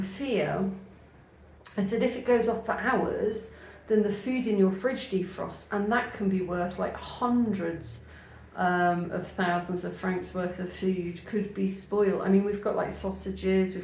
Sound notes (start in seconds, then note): none